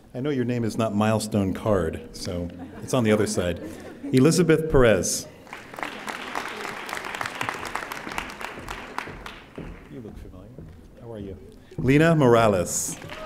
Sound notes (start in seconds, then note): 5.3 audience applauding; 12.3 audience applauding